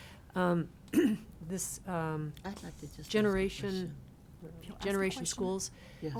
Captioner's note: clears throat